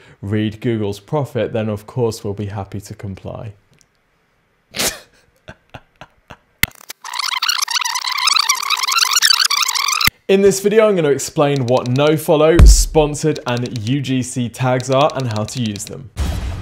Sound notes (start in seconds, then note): 5.4 chuckling; 7.0 whirring